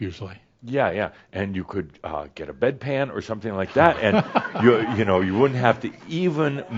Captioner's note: laughter